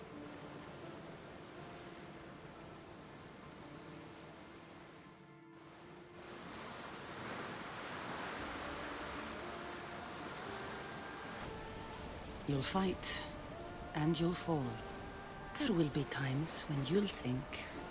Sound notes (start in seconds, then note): none